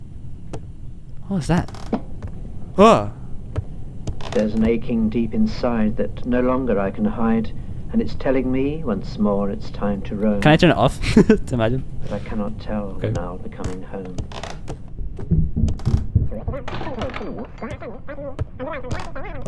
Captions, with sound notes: What was that? *sensible scared noise* -There's an aching deep inside that no longer I can hide and it's telling me once more it's time to run. -Can I turn it off? Imagine. -I cannot tell when I'll be coming home.